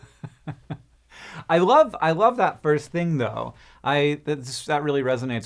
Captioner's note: chuckles